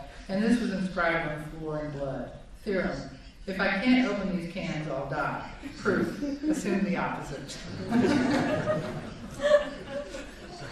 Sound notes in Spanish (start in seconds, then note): 7.6 Risas